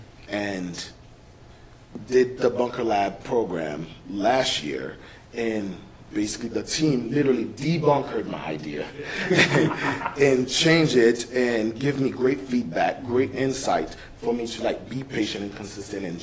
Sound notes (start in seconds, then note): 9.0 laughs